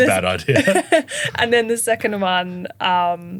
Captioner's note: laughing